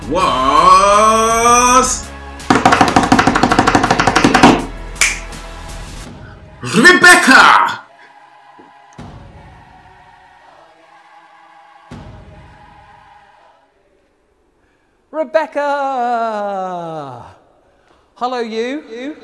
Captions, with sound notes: was (hitting desk) (snaps fingers) Rebecca. (upbeat music) - Rebecca, hello, you.